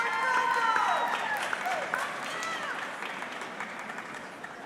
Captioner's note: audience clapping